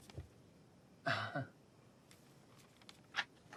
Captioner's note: Louis chuckles